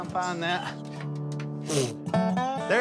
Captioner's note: blows